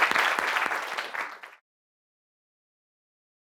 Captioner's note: applause